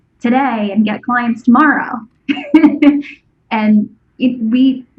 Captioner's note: laughs